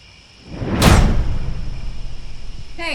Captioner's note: whoosh